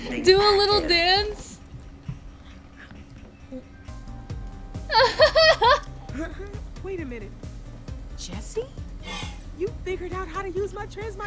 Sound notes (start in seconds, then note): 4.9 Sabrina laughs; 6.7 laughs